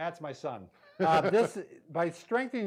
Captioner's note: chuckling